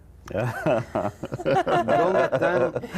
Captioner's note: risas